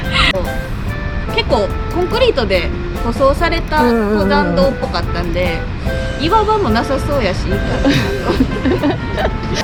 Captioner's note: laughs